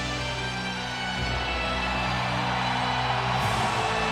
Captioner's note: audience cheering